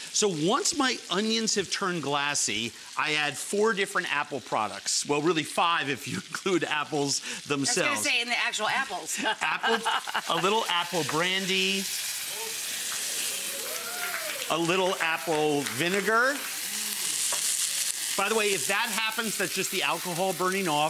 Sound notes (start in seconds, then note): 9.0 chuckles; 11.4 food sizzling; 12.7 audience clapping